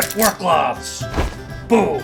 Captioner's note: woosh